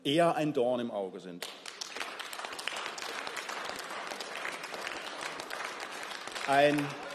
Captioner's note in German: Beifall